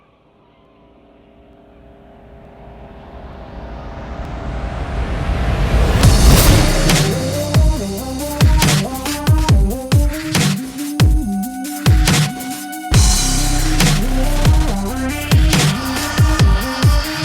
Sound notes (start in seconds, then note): 2.6 wind howling; 6.4 upbeat techno music